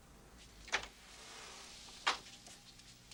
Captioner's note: door opens